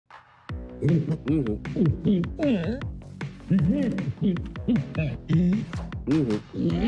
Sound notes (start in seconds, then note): 0.2 upbeat music; 0.8 grunts to speak